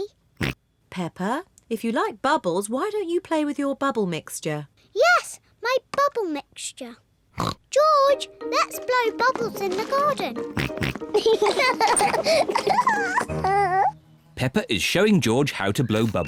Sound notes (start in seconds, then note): 6.6 oinks; 10.4 both oink and laugh